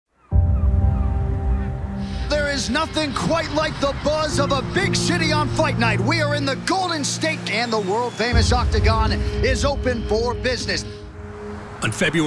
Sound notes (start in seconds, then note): 0.1 seagulls cawing; 1.3 gentle music; 12.0 vehicles whooshing